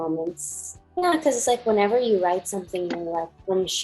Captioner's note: murmurs